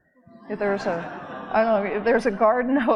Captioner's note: audience laughing